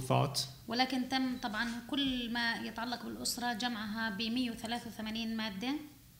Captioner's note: speaking arabic